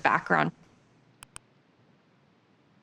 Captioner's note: mouse clicks